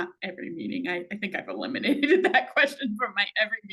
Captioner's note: laughing